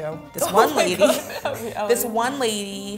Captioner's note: laughs